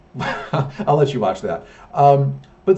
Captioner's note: laughs